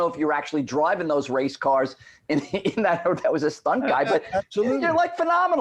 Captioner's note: laughs